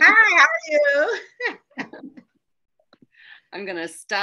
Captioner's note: laughs